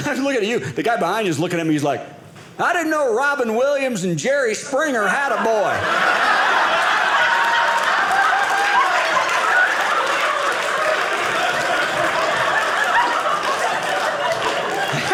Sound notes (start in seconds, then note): 5.7 audience laughing; 9.1 audience applauding